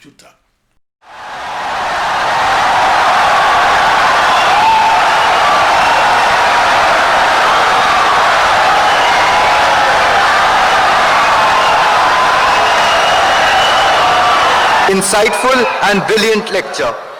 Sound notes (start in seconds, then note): 1.4 wild applause and cheering for 17 seconds